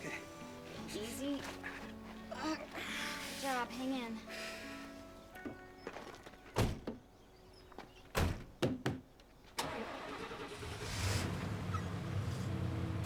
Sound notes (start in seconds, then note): 1.6 grunts in pain; 9.6 ambulance engine starts